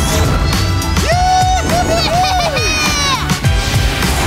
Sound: cheering

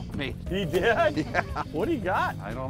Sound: laughing

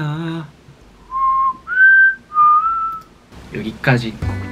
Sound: he whistles like a bird

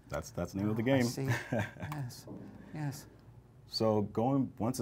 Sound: chuckles

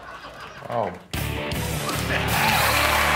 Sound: crowd laughing; crowd cheering

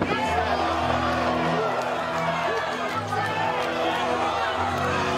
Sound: crowd cheering and clapping

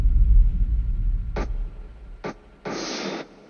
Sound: dull booming thump, spitting sound

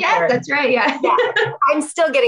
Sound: laughs

